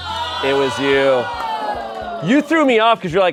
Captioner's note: deflated music; crew exclaims